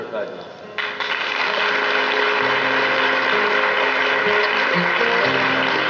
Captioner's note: audience applauds